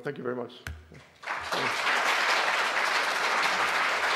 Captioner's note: applause